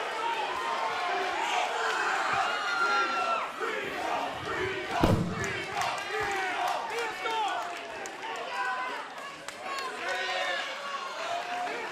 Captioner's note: crowd cheering